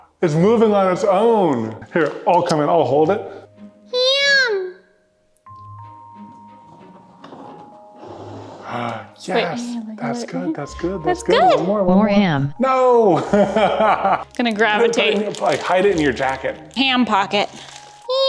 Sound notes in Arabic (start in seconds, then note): 13.1 يضحك بصوت عال